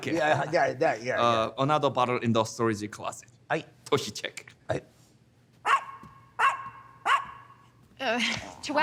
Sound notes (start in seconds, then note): 0.0 speaking in foreign language; 5.6 dogs barking